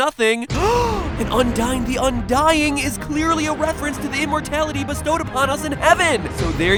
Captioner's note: gasp